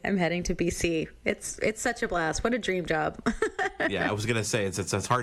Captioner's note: laughs